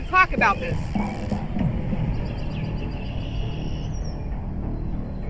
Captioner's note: birds chirping